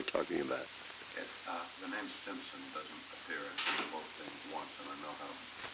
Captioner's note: production chatter